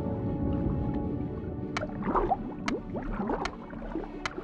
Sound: resumes clicking

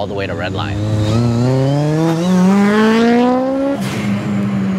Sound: car engine revving

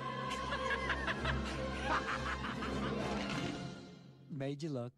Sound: laughing

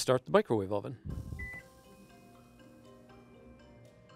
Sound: beep

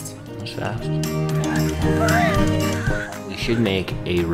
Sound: upbeat music; baby crying

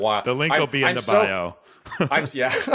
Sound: laughs

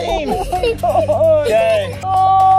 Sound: laughter

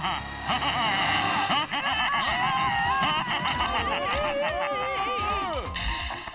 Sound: applause

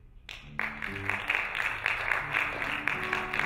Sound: applauding

